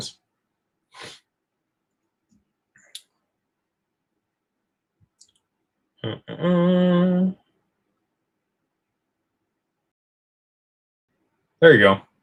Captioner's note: snorts